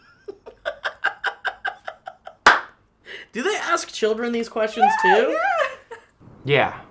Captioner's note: laughter